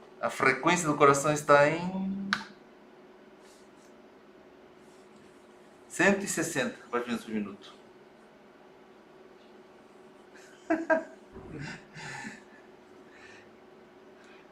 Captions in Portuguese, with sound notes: a frequência do coração está em... 160 batimentos por minuto [RISOS]